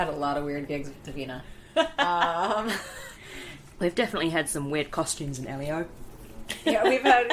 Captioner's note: laughs